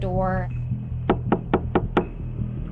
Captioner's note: knocking noises